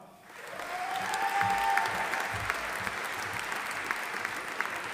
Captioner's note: audience applauding